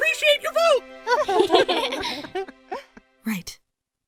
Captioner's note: chuckles